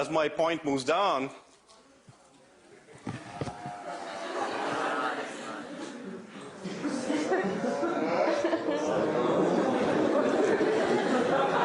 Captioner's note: laughter